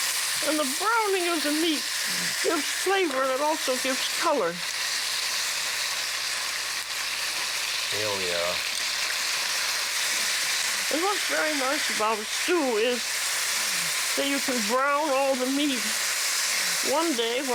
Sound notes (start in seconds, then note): 4.8 sizzling